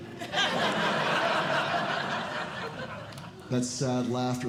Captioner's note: audience Laughing